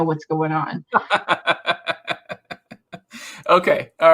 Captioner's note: laughs